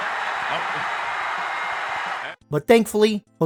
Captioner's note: crowd laughing and hollering in the background